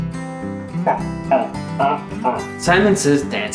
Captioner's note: bawking